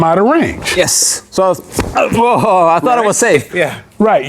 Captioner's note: kick thumps